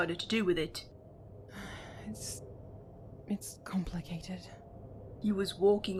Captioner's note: Regulus lets out a breath